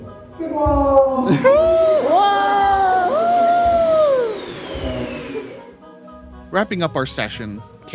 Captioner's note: laughing and cheering in surprise